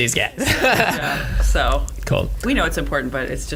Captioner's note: laughs